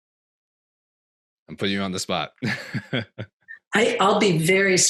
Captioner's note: chuckles